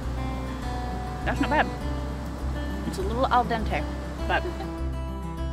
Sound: someone chuckles in the background

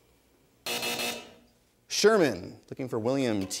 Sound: buzzer sounds

